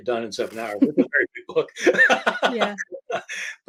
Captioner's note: laughing